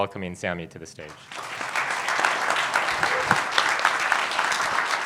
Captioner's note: audience applauds